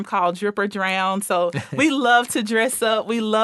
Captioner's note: laughing